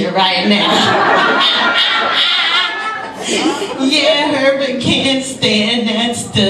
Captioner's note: laughs